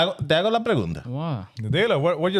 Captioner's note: speaking In Foreign Language